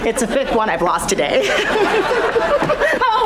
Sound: giggling

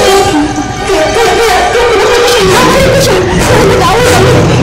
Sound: stammers

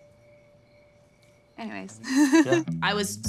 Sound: laughs

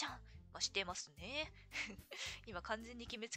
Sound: laughs

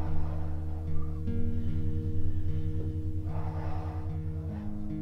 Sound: Terry takes a deep breath

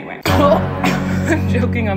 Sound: coughs

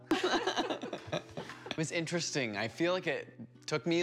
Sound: laughter

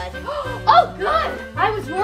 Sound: gasps

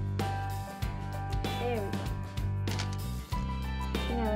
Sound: camera snap

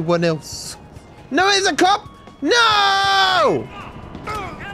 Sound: screaming

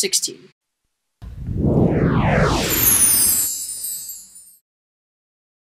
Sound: various swooshes

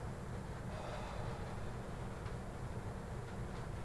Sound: sighs

